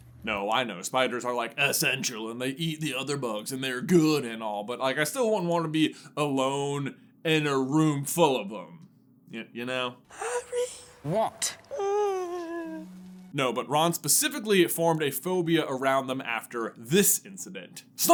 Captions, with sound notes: No, I know. Spiders are, like, "essential" and they eat the other bugs and they're "good" and all. But, like, I still wouldn't want to be alone in a room full of them, you know? [whimper] Harry? What?! [moaning whimper of terrified] No, but Ron specifically formed a phobia around them after this incident.